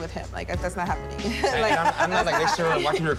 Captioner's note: laughs